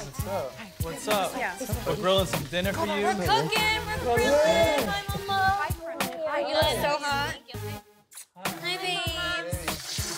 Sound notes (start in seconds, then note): 8.1 kisses; 9.5 water running